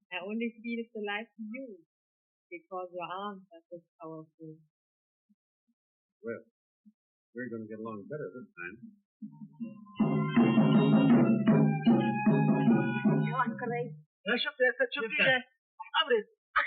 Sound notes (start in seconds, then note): 12.0 speaking Arabic